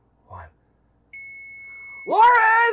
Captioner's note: timer ringing